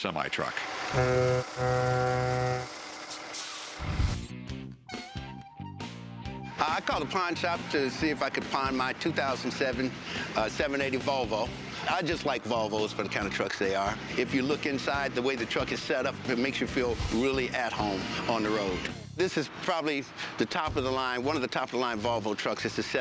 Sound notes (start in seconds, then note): 0.1 horn hoots; 1.6 engine rumbles, truck hisses; 3.1 country rock music